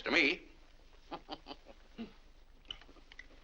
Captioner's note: chuckles; laughs